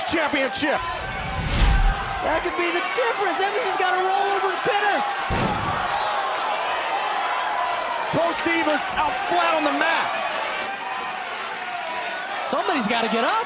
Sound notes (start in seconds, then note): 5.8 crowd cheering